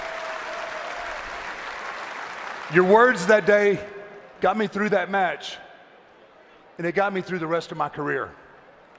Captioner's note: cheering and applause